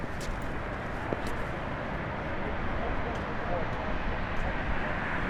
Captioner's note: traffic drones